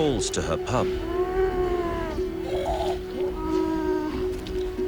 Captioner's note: sea lion groaning